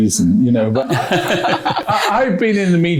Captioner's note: laughs